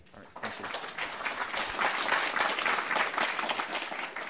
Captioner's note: applause